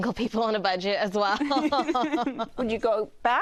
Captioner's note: laughs